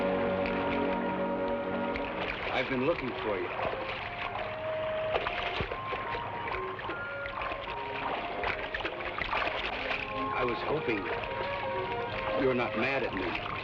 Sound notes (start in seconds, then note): 4.4 water splashes